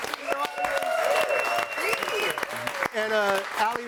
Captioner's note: audience cheering and applauding